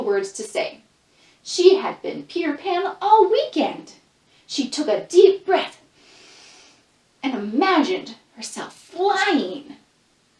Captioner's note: inhales